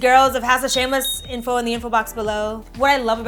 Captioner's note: bell dings